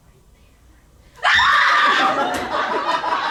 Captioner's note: screams